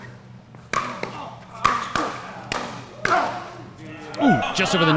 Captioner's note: players grunting